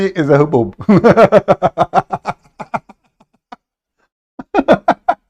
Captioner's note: Ketawa